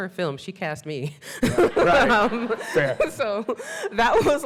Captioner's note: laughs